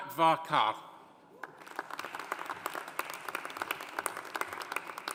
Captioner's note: audience applauding